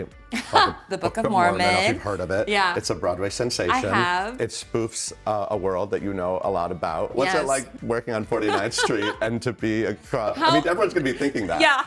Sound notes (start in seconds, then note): 8.4 laughing